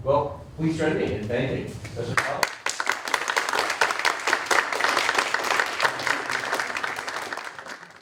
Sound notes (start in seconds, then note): 2.2 applause